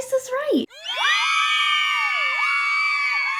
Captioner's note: screaming